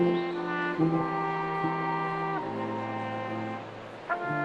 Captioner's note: attendees cheering